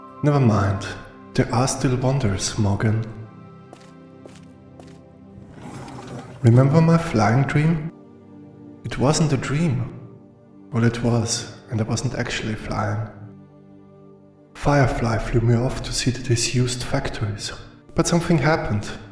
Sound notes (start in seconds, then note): 4.2 footsteps; 5.4 door opens